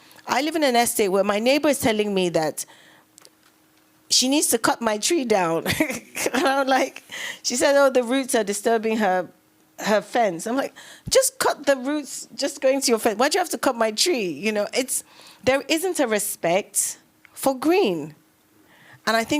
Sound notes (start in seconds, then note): 5.6 laughs